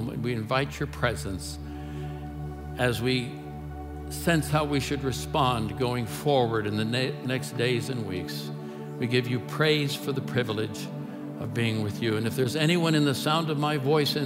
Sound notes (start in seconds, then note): none